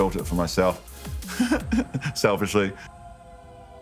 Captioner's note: chuckling